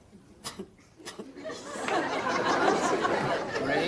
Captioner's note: audience laughing